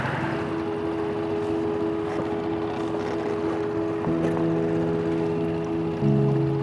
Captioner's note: boat engine humming; gentle piano music begins